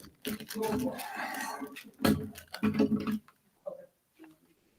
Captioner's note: staff speaking faintly